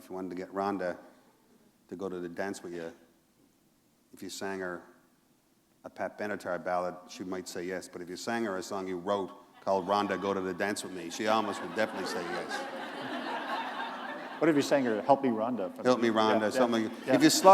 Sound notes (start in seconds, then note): 13.6 laughter